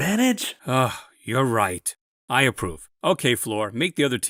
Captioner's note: sigh